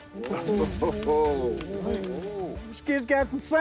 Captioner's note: men jeer